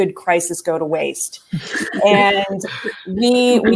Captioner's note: laughter